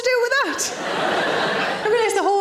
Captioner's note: audience laughing